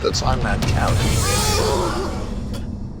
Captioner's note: pleasurable groan